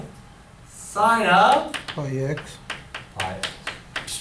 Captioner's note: voiceover